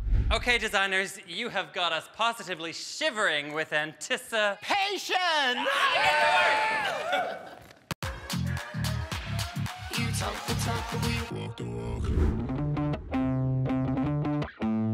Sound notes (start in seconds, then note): 5.3 all cheering; 8.0 upbeat music; 12.3 bright music